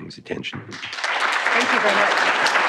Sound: applause

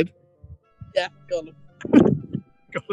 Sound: laughing

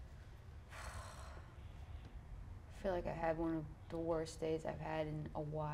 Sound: sighs sadly

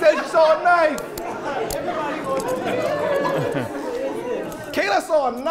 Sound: attendees laughing

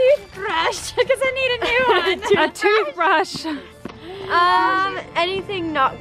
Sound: laughs

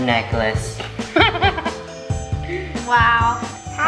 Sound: chuckles

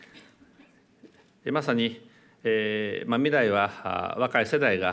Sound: speaking japanese

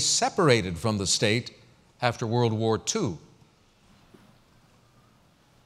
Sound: pause

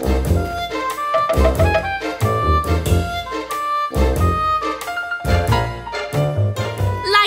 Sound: knocking

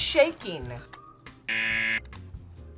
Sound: buzzer

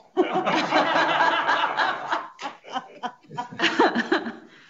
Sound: several laughing

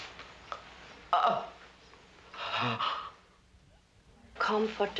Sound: gasping

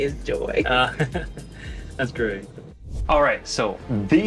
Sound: laughs

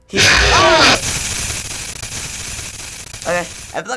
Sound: screams; static screeching; abrupt screech

